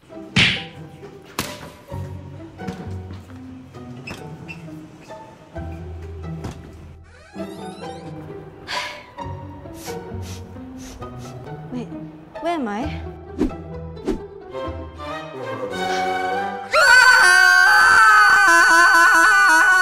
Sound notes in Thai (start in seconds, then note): 8.8 เห้อ; 9.7 ดมกลิ่น; 14.7 ดนตรีหดหู่; 16.6 กรี๊ด